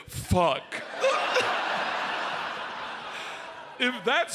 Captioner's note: audience laughs